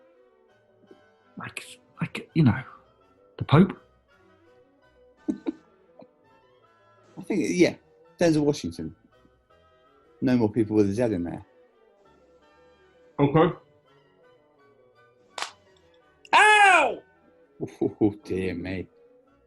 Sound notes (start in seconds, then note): 5.3 quiet giggling; 15.4 cracks knuckles; 17.4 chortles